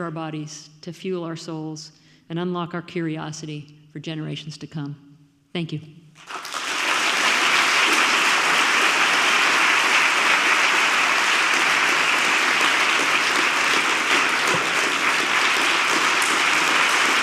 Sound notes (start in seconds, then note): 6.4 audience applauds